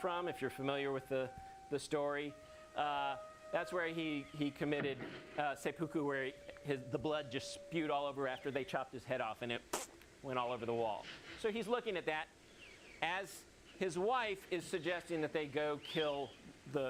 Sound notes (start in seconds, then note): 9.7 blows raspberry